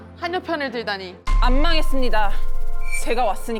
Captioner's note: confident sound effect